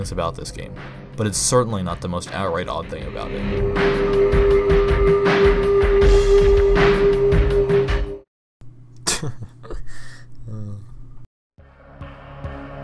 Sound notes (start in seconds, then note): 9.0 chuckle